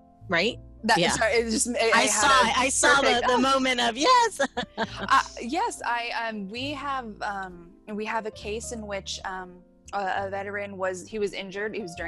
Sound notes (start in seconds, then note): 4.9 laughs